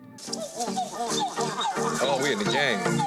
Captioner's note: monkeys howling